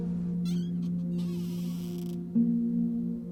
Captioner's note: door squeaks